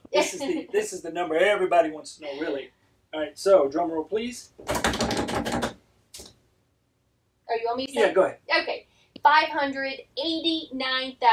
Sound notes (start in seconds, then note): 4.6 hands banging on table